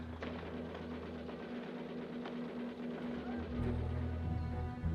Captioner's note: rapid gunfire